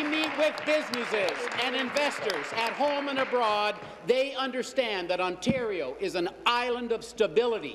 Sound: applause

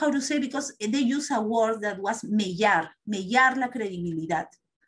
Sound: non-english speech

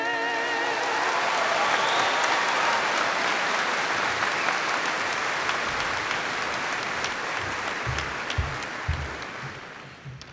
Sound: audience applauding

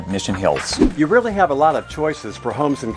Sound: note swooshes

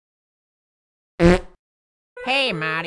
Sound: fart

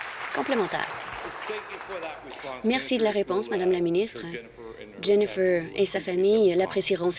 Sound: applause

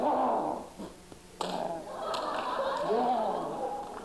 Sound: laughter

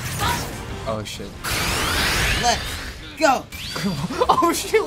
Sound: powering up; laughing

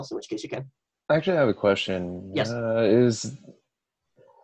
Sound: none

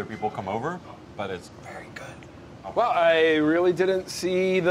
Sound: whispers

